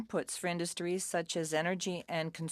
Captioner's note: speaking French